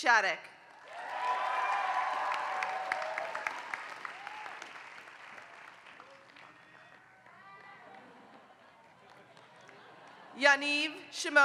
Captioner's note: applause